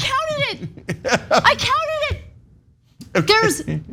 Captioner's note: laugh